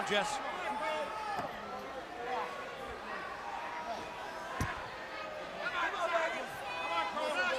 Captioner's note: crowd chatter